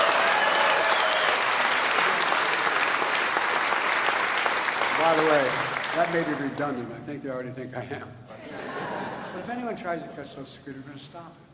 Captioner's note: applause